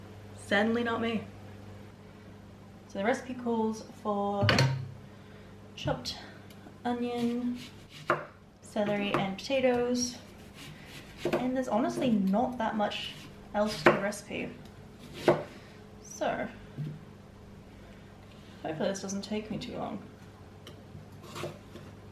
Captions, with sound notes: Certainly not me. So, the recipe calls for [Metal thunk] chopped onion, celery, and potatoes and there's honestly not that much else to the recipe. [Chopping] So hopefully this doesn't take me too long.